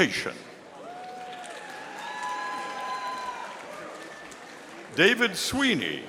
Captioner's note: audience applauding